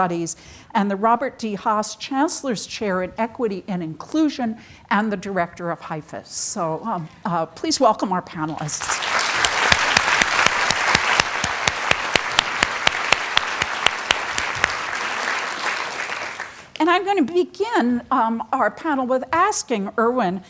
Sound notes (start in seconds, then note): 8.8 audience applauding